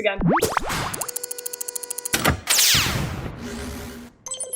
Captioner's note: robotic clanks